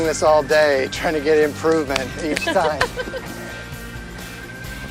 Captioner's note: laughs